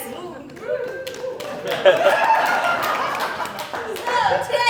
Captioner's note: audience Cheering